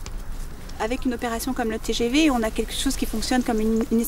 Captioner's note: French spoken audio